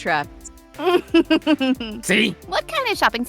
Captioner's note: chuckles